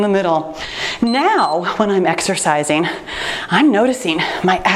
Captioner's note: timer beeps